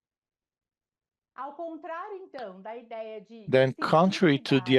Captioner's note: speaking in Portuguese